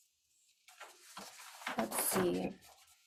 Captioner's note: paper shuffling